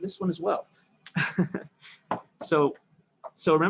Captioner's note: chuckles